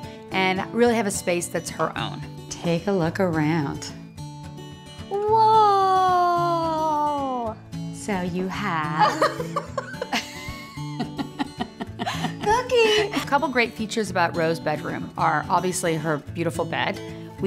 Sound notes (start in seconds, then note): 9.0 laughter